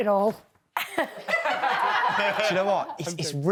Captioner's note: housemates laughing